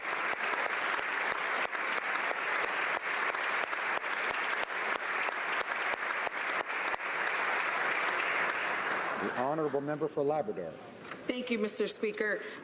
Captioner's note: applause